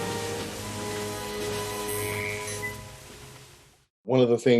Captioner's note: electric whirring